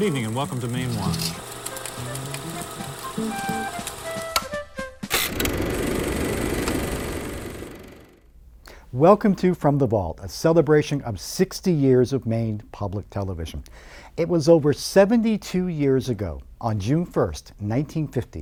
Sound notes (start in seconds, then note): 2.0 machine clicks and whirs; 2.0 soft upbeat music